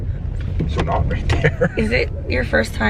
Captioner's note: laughing